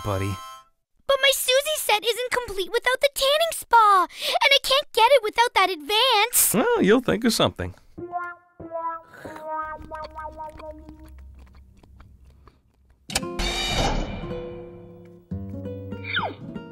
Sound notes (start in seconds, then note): 13.1 mechanism whirring